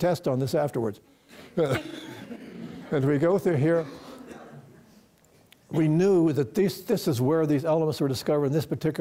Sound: laughter

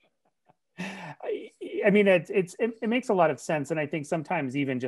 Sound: laughs

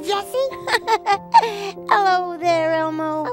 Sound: laugh

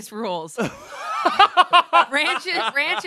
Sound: everyone laughs

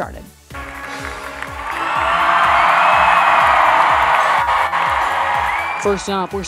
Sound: applause, cheering

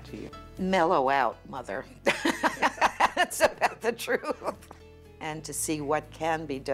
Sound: laughs

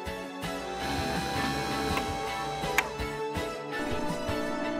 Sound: whirring

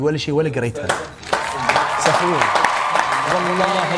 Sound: applause 👏

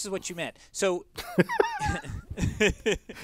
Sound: laugh

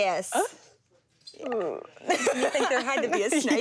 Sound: laughing

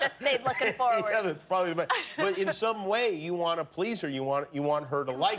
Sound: laughter

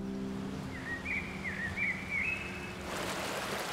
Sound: birds chirping

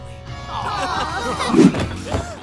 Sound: laughing

